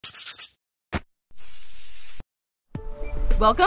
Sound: spray painting sounds

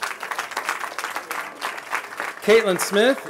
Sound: applause

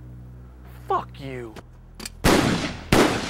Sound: gunshot

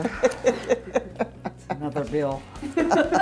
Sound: laughing

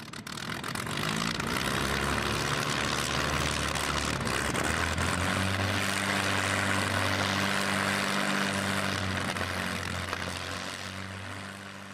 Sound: aircraft engine starting and fading into the distance

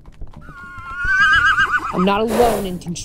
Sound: neighs

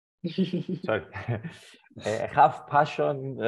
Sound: panel laughs

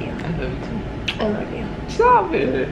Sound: smooch

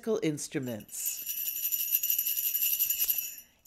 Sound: rattle

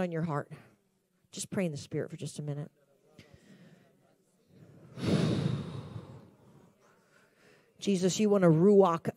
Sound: exhales deeply

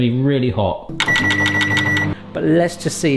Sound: beeping

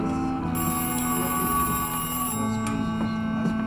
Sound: phone rings

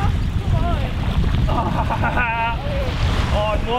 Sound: laughing maniacally

